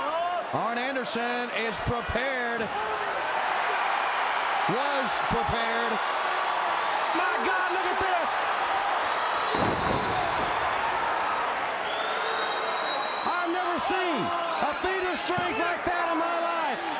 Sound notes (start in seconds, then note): 4.1 crowd cheers